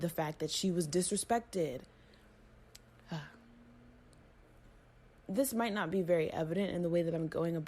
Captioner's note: exaggerated sigh